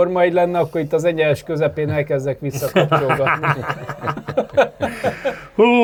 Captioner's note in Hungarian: nevetés